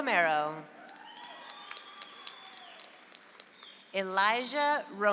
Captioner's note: audience applauds